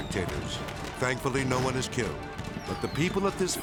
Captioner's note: fireworks exploding